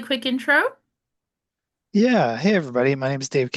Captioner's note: American accent